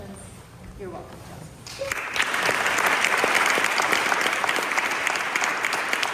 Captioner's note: applause